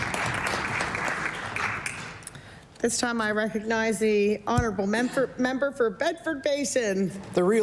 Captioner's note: applause